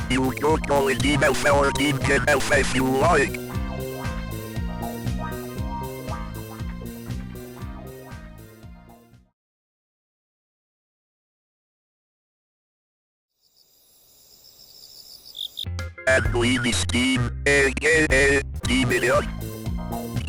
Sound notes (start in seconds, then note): 9.3 the aforementioned silence; 13.4 crickets chirping